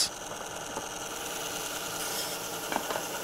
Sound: loud machine whirring

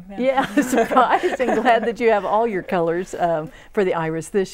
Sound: laughing

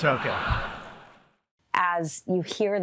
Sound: laughter

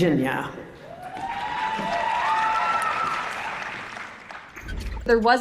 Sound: applause

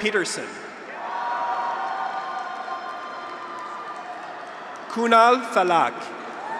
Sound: graduates cheer; audience applauds

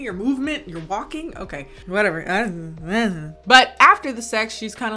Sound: imitates mumbling

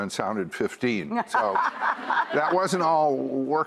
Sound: laughing

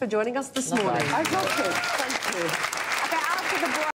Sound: audience applauds

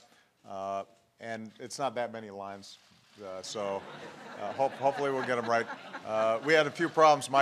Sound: laughter

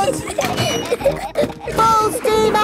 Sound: giggling

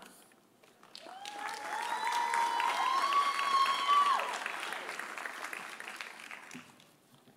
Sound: audience applauding; audience cheering

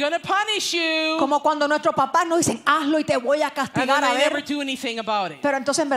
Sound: Spanish

